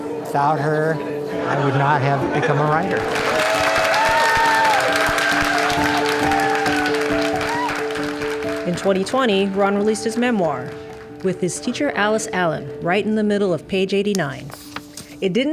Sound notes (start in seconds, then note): 3.4 cheers and applause